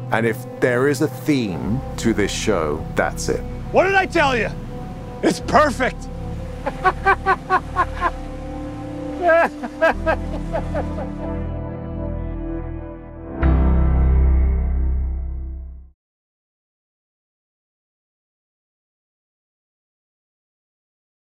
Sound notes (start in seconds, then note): 6.6 laughing